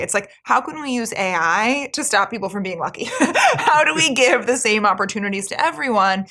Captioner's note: laugh